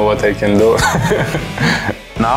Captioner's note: laughs